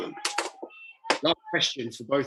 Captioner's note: bottle crushing